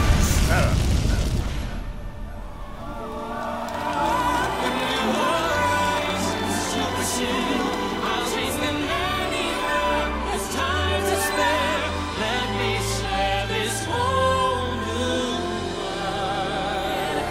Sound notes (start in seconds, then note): 1.8 audience cheers